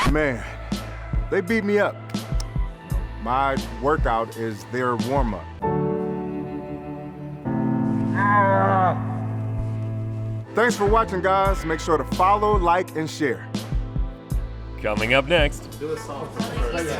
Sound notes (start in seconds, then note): 0.0 record scratching; 0.3 mellow R&B music; 5.7 melancholic music; 8.2 Spice screaming; 13.8 mellow R&B music